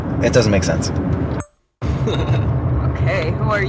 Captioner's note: camera recording sound